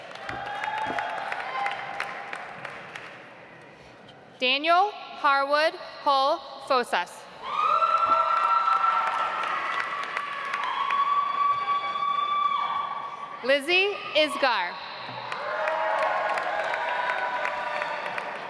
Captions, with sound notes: (audience applauds) Daniel Harwood Hull-Fossas. (audience applauds) Lizzy Isgar. (audience applauds)